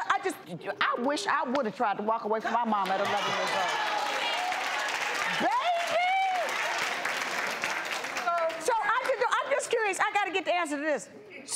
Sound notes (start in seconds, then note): 3.0 audience cheering